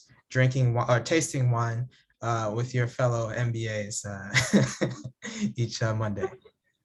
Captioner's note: laughs